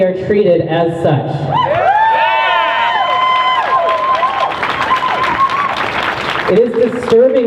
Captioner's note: crowd cheers